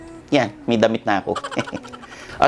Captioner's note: laughs